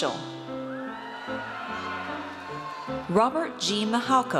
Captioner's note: audience cheers